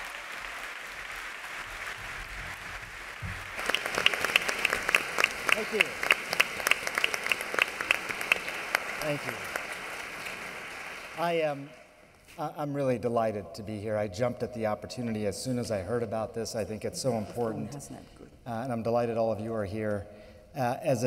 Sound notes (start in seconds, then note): 4.7 applause